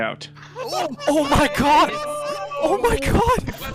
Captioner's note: sounds of Gamers Going Insane